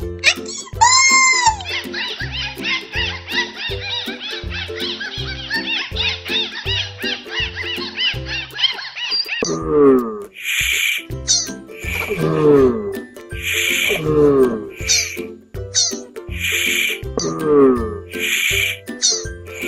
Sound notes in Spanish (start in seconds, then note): 2.0 Sonido delfin; 9.1 sonido tortuga